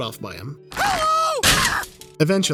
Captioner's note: screams